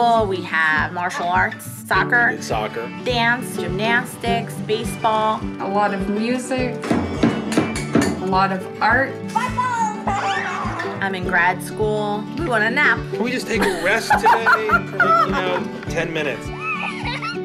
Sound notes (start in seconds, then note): 6.8 drumming, cymbals crashing; 9.8 squealing, laughing; 16.4 laughing